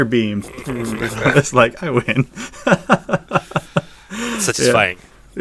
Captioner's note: laughs